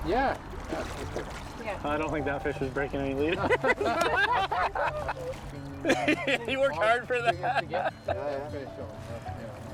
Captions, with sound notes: - Yeah - I don't think that fish is breaking any leader. (all laughing) He worked hard for that. (laughing)